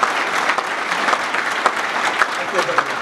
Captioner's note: applause